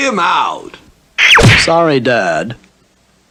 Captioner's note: smack!